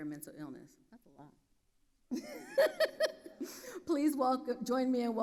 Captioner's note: laughs